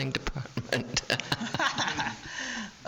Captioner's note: laughing